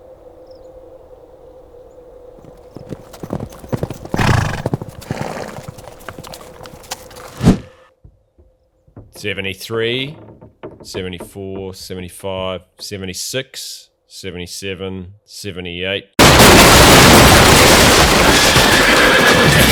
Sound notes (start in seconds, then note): 2.4 horses galloping; 16.2 loud crash